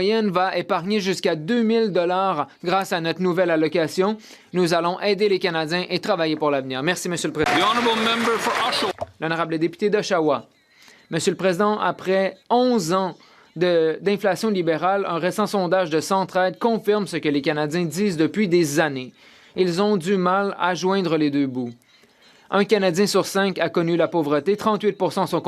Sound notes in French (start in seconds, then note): 14.7 voix de l'interprète